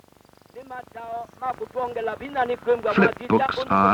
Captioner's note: non-English speech